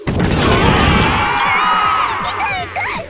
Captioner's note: panicked cry; blitz cry